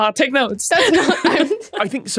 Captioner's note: both laughing